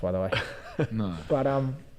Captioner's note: giggles